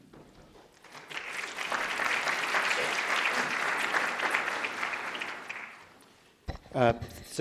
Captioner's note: applause